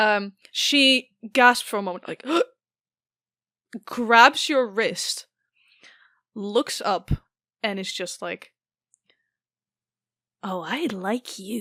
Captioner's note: gasps